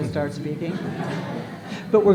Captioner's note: laughter